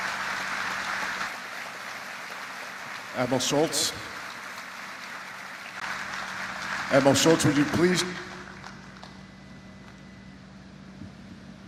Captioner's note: applause